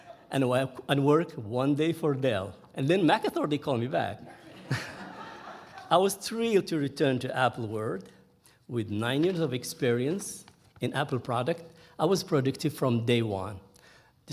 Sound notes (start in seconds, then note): 4.3 audience laughing